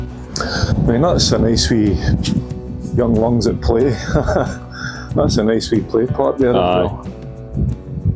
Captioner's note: chuckle